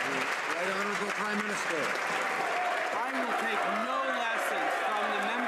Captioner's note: some Applause